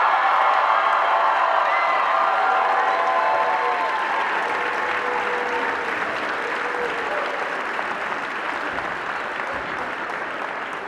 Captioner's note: cheering